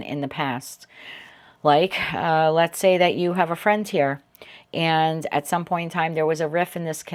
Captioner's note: sighs and gasps